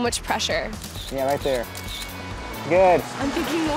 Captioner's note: camera snaps